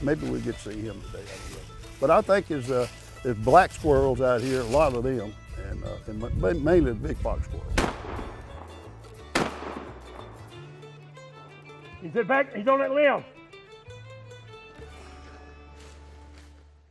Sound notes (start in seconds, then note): 7.8 booming